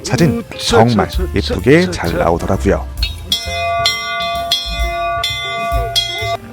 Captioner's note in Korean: 종소리